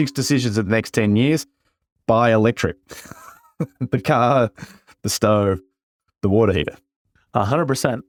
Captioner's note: laugh